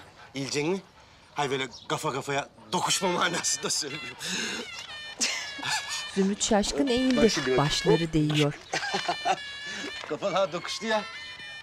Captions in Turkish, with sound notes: ...eğilecek misin? Hayır böyle kafa kafaya... ...tokuşma manasında söyledim. (Gülme sesleri) Bak şimdi hop. (Gülme sesi) Kafalar tokuştu ya.